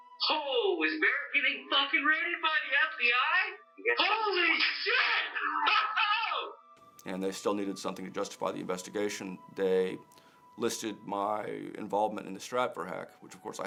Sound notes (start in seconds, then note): 4.0 laughs